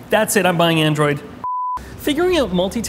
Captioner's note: test screen beeps